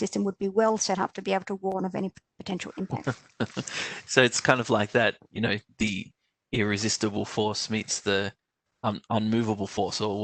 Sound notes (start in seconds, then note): 3.3 laughs